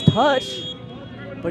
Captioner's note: whistle blows